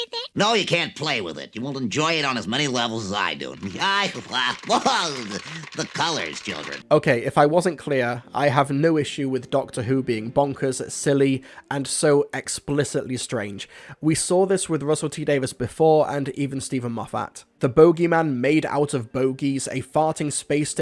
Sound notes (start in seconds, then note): 3.7 nerdy Laughter